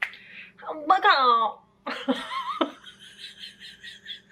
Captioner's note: chaotic cackling